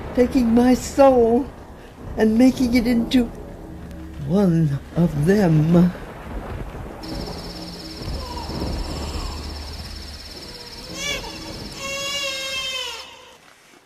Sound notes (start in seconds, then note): 7.7 echoing baby cry